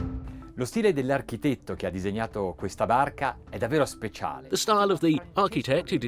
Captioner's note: speaking foreign language